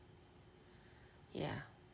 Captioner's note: korean, softly